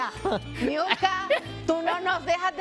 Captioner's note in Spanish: risas